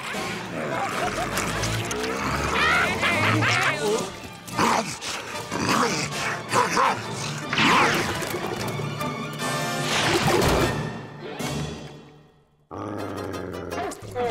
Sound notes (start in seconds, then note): 0.2 growling; 2.6 laughing; 4.4 growling; 12.7 growling